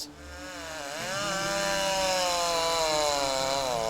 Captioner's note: chainsaw buzzing